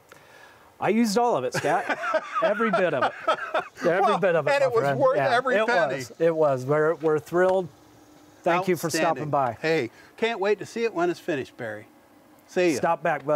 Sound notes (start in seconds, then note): 1.5 laughing